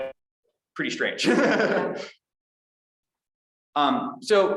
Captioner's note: chuckles